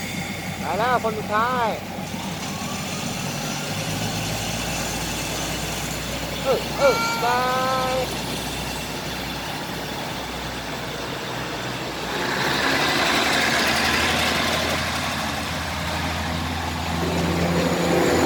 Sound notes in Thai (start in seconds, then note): 2.7 รถไฟเร่งเครื่องกำลังออกจากสถานี